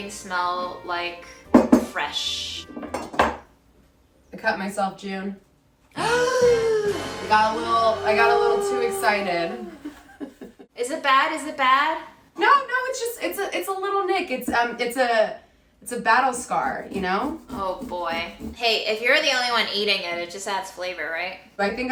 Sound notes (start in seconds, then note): 6.1 gasps; 6.2 dramatic music